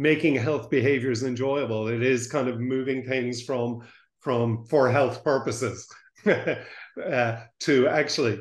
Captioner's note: laughs